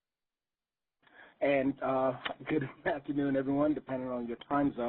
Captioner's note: voiceover